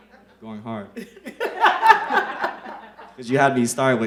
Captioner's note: the laugh